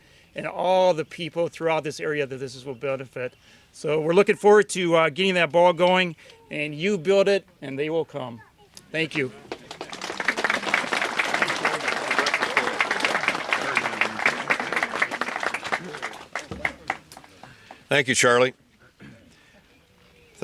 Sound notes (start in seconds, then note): 9.1 applause